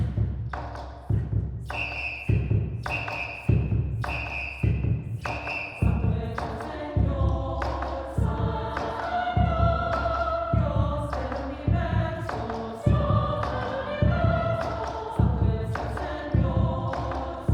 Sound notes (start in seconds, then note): 0.0 whispered; 2.8 whispered; 4.5 whistles